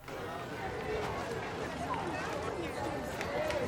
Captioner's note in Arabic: ثرثرة في الخلفية